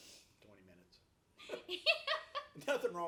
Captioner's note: laughs